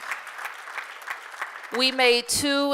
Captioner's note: applause